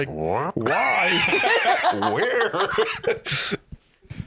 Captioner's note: laughs